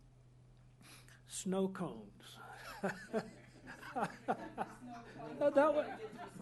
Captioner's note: laughter